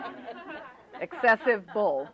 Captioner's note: laughter